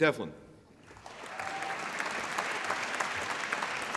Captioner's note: applause